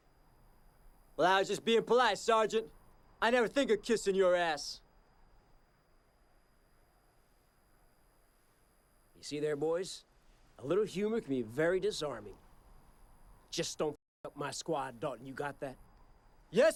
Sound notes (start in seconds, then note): none